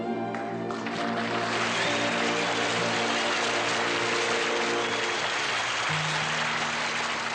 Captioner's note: audience applauding